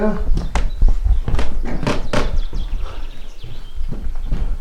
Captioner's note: footsteps thumping